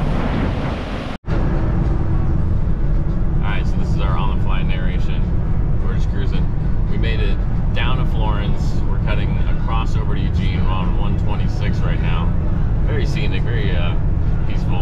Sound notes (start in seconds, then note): 1.3 sirens wail